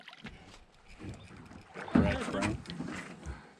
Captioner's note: fish splashing